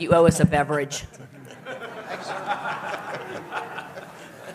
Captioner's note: laughter